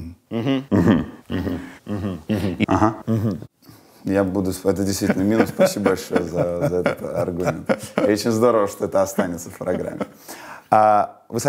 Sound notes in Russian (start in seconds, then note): 4.9 Познер смеется